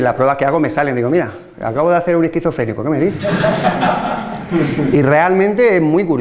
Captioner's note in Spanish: risas